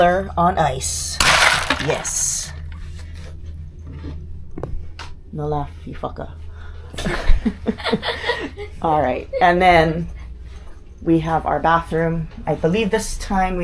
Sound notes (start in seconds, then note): 4.2 laughter